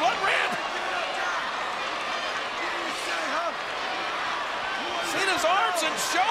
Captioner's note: applause